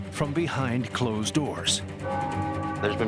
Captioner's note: church bell tolls